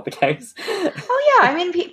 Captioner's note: laughs